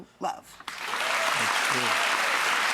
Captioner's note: audience applauds